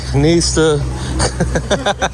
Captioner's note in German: gelächter